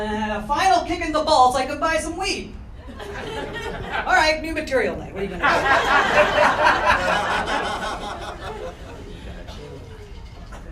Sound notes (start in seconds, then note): 3.1 light laughter; 5.4 crowd laughing